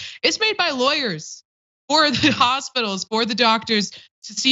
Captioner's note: laugh